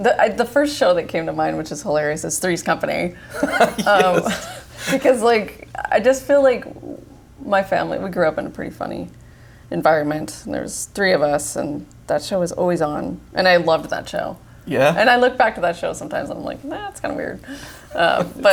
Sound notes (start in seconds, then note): 3.3 laughs